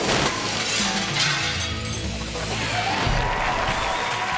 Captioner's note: glass shatters; upbeat music continues; audience cheering